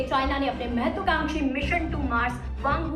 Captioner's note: none